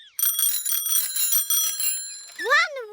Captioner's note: bells ring